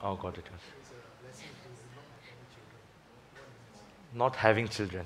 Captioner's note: faintly speaking